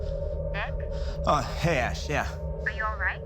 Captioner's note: on phone